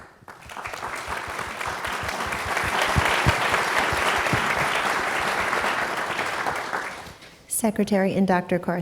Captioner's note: applause